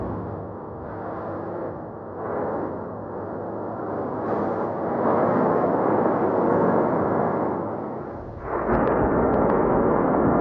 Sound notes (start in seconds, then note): 0.8 dramatic drum music continues; 5.4 volcano roaring continues